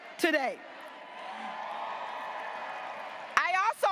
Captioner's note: graduates applauding and cheering